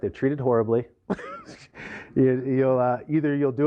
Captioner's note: laughter